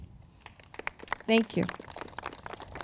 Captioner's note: crowd claps